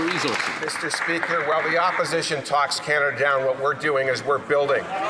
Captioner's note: some Applause